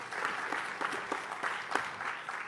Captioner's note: applause